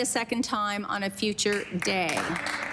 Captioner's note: some Applause